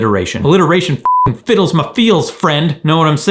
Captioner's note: beep